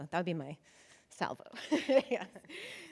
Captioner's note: chuckles